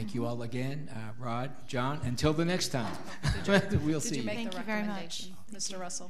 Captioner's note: laughs